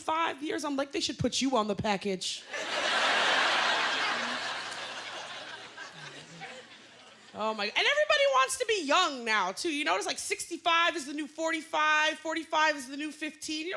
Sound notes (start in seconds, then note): 2.4 laughter